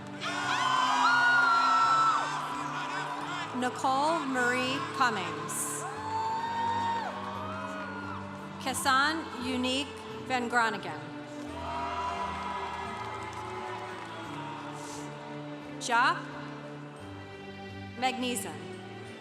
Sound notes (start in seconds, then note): 0.1 congregation cheering; 11.4 congregation applauding